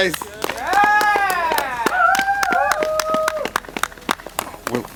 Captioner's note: cheering